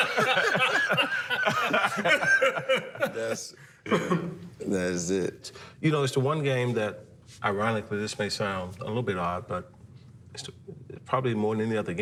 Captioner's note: laughter